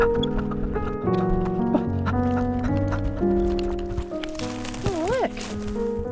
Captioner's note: sped up heavy breathing